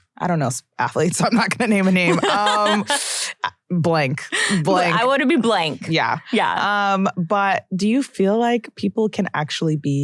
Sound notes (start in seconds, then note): 2.0 laughs